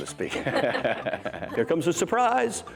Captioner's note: laughter